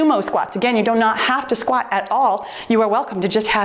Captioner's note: timer beeps